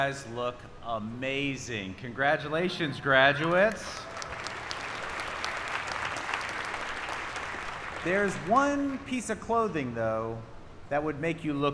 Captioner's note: applause